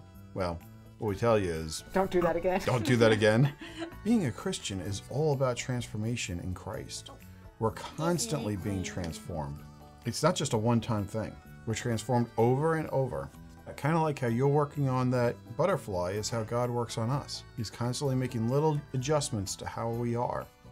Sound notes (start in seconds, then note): 2.6 laughing